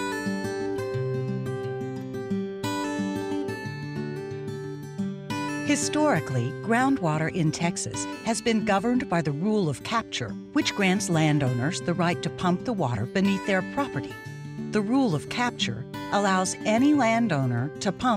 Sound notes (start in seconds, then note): 0.1 soothing acoustic guitar; 6.0 voiceover